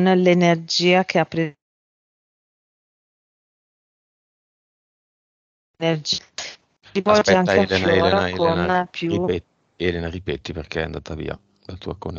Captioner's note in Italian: Applauso